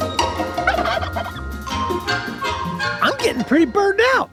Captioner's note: bird gobbles